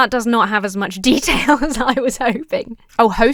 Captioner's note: laughs